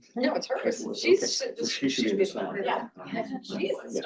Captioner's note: quiet chatter